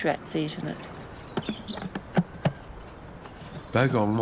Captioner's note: bird chirps